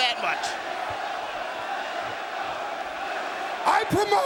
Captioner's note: crowd exclaiming